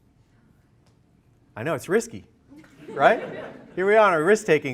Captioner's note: laughter